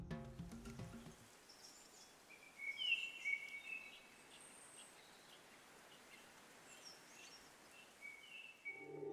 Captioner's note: birds chirping